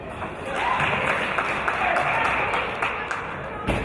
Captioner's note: applause